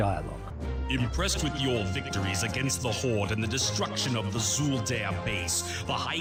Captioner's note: voiceover